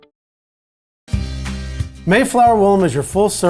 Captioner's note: voiceover